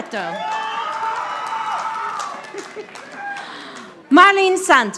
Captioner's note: audience applauding